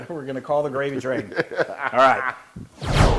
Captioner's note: laugh